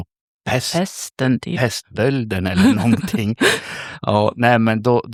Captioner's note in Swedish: skratt